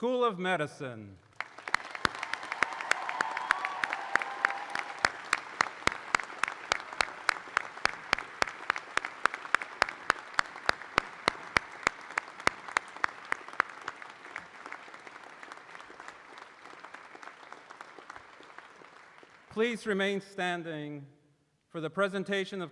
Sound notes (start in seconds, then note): 5.1 cheers and applause